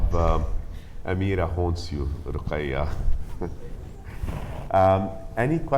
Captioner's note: laughs